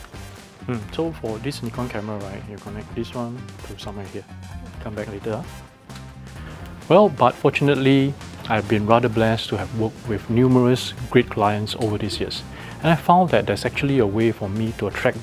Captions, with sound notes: (chattering) Well, but fortunately, I’ve been rather blessed to have worked with numerous great clients over these years. And I found that there’s actually a way for me to attract